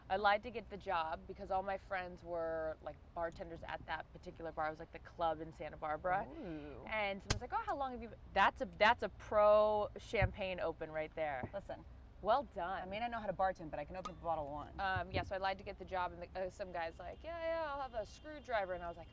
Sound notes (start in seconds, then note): 7.2 bottle pops open